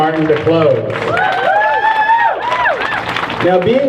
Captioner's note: crowd cheers